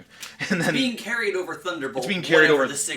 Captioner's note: laughing